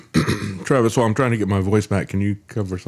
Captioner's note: coughs